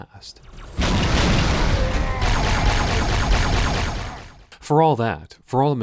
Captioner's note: explosions and gunfire